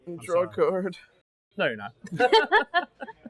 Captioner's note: laughs